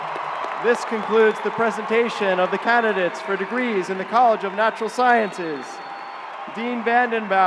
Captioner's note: cheers and applause